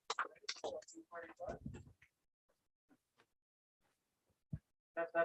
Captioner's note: indistinct conversation